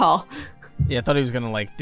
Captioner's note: chuckles